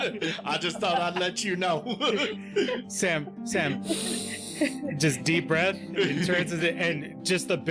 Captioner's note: inhales